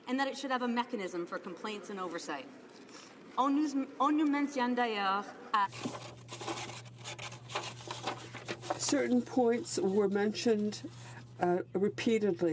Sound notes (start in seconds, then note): 6.7 speaking French